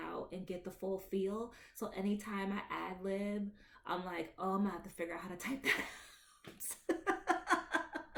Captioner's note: laughs